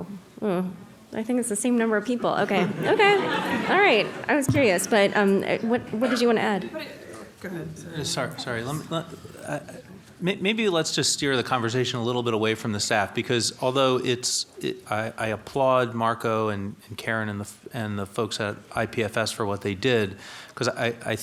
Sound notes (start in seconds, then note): 4.5 audience laughing